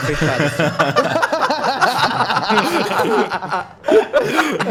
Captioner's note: laughter